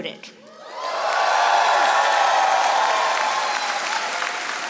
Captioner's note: audience applauding